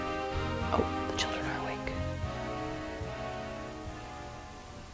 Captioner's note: whispers